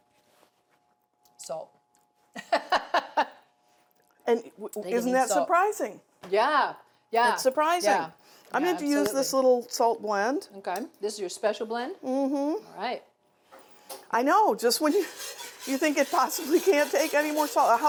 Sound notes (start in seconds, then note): 2.3 laughs